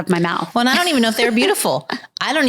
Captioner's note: laughs